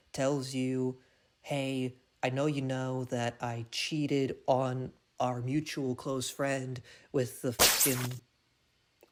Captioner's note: thwiping